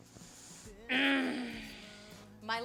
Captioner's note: frustrated grunt